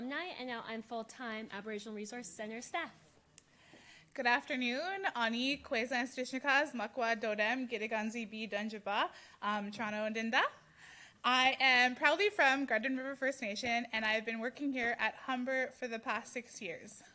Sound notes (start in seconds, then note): 5.4 speaking in Indigenous language